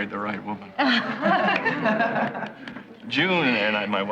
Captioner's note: laughing